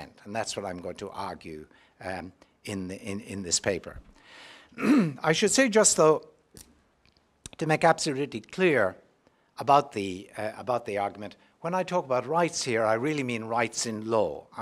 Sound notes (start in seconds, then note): 4.7 cough